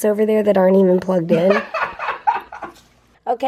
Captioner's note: laughing